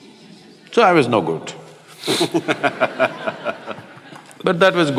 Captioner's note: Matthew laughs